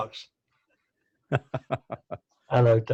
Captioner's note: laughing